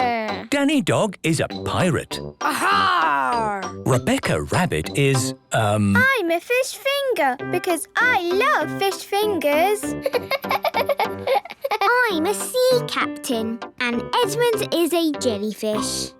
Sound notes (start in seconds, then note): 10.0 laughing